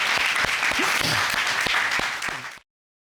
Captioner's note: applause